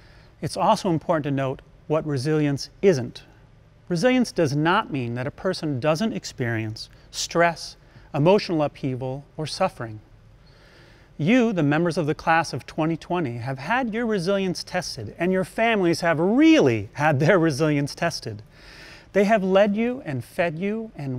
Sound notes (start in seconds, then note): none